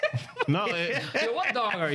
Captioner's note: laughing